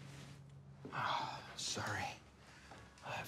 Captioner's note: sighs